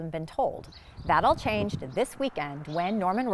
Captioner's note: birds chirping